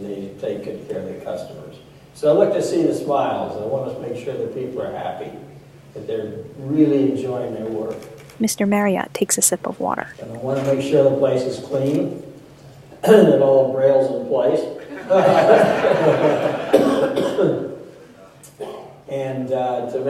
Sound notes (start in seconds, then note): 14.8 laughter